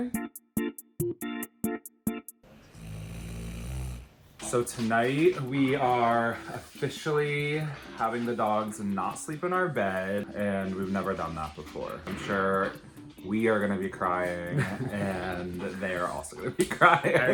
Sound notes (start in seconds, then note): 0.0 upbeat music; 2.6 snoring; 16.6 chuckling